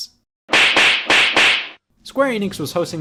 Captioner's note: slaps